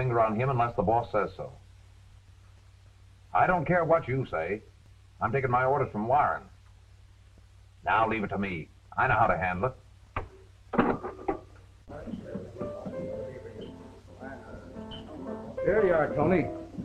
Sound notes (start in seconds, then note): 11.8 people chattering; 11.9 gentle piano music